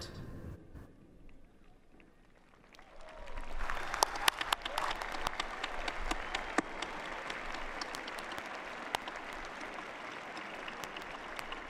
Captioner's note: applause